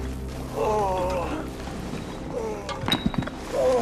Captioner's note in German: Grunzen; Stöhnt; Stöhnen